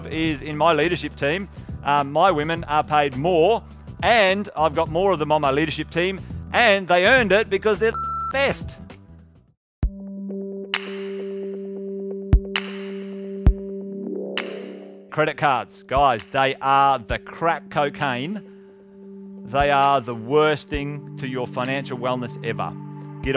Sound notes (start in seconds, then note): 8.0 beeping